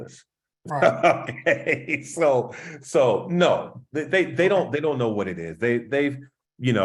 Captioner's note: laugh